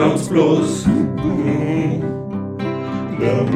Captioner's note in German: m-mh-mh